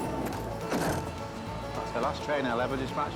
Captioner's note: babbling nonsensically; door clunks